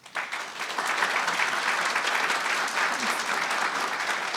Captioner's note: audience applauding